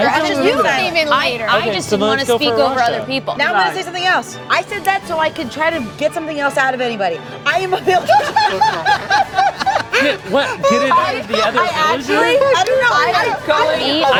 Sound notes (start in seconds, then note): 7.8 group laughing